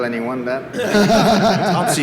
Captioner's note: laughter